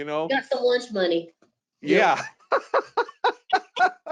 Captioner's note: laughs